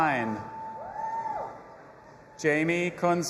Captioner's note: audience applauding and cheering